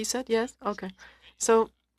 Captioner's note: speaking french